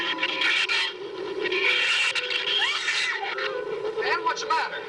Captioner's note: screams